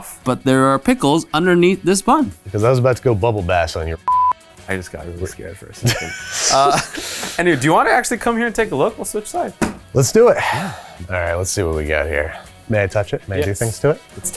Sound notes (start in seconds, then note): 4.0 beep; 5.8 Andrew laughs